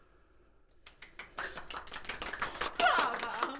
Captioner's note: people applauding